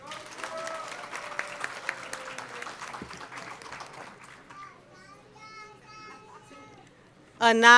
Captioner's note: applause